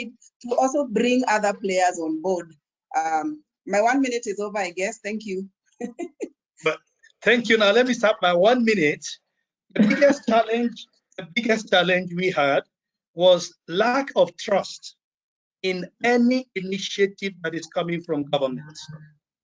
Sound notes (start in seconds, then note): 5.9 laughs